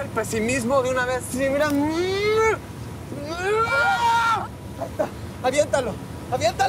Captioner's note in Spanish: Grito